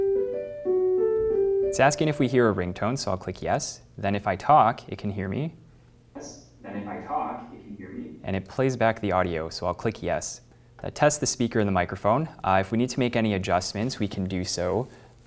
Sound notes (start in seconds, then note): 5.8 Zoom plays back audio of speaking from the classroom ceiling microphones